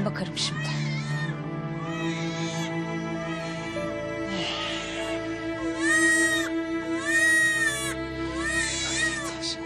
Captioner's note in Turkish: Bebek ağlaması